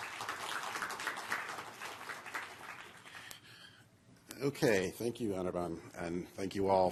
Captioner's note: applause